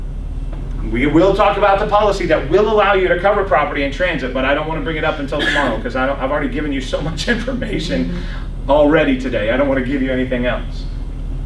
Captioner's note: coughs